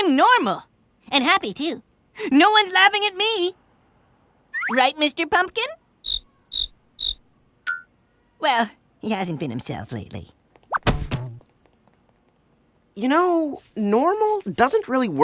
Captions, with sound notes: AND HAPPY, TOO. NO ONE'S LAUGHING AT ME. RIGHT, MR. PUMPKIN? (CRICKETS CHIRP) WELL, HE HASN'T BEEN HIMSELF LATELY. YOU KNOW, NORMAL DOESN'T REALLY WORK FOR STEPHEN.